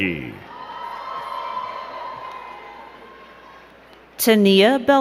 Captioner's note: crowd cheering and clapping